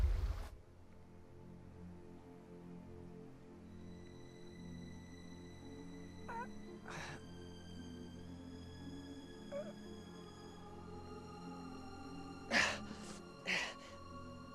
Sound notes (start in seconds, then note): 6.1 groaning; 12.5 gasping